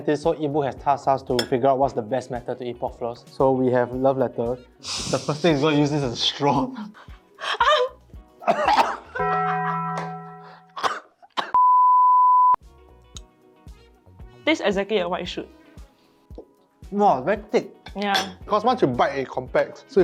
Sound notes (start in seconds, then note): 8.4 vigorous coughing; 10.6 more coughing